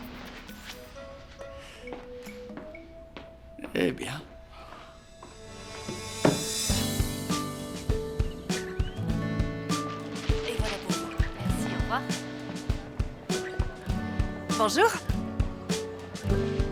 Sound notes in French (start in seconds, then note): 4.5 soupirs; 7.3 musique douce; 10.3 bavardage indistinct